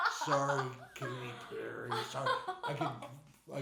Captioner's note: laughing